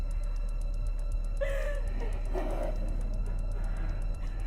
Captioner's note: Tina whimpers